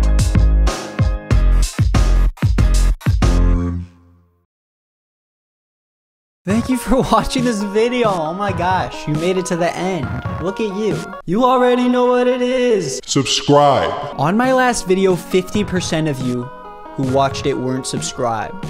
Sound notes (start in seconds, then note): 11.0 auto-tuned